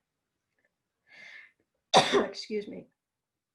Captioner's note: coughs